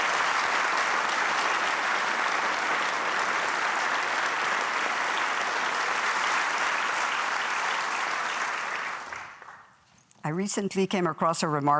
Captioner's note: applause